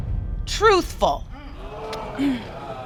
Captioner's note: audience exclaims